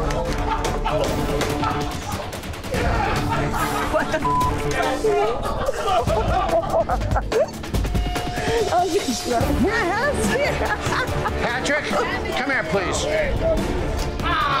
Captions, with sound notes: - What the (beep)! (girls giggling) - Are you drunk? - Patrick, come here please!